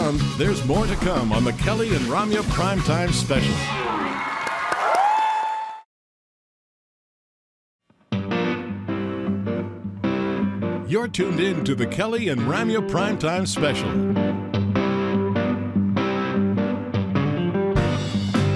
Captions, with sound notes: There's more to come on the "Kelly and Ramya Primetime Special." (audience cheering) (audience applauding) (upbeat blues music) You're tuned into the "Kelly and Ramya Primetime Special." (upbeat blues music continues)